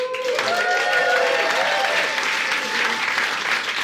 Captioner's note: audience cheering